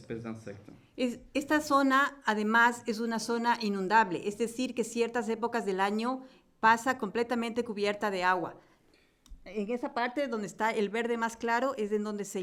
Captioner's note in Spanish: Español